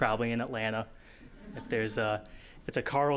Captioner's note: audience laughing